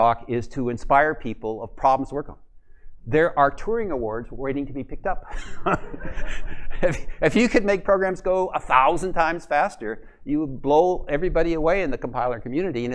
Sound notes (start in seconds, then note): 5.3 laughs